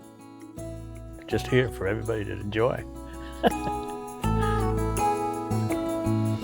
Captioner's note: chuckles